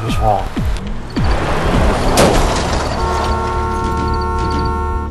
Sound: crash, car horn blaring

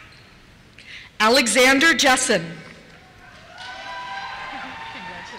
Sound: cheers

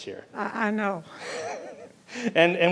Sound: laughing

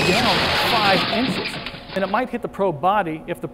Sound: loud crashing

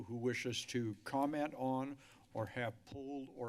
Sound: none

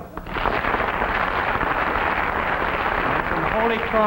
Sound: audience clapping

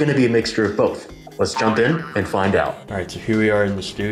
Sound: boing

